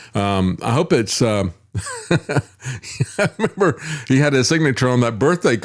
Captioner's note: laughs